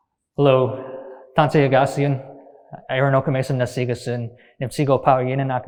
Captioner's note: speaking in Nêhiyawêwin